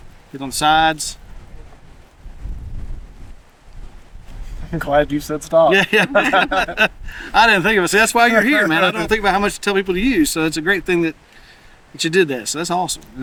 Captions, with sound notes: Get on the sides. - I'm glad you said stop. (laughing) - I didn't think of it. See that's why you're here man, I don't think about how much to tell people to use. So it's a great thing that you did that, so that's awesome.